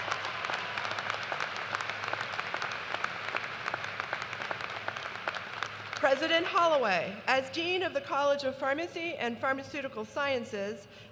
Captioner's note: cheers and applause